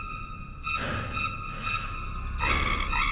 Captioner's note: sinister music; heavy breathing; swan screeches